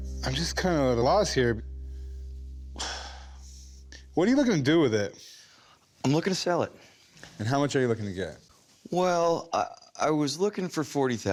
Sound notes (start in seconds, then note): 2.7 sighs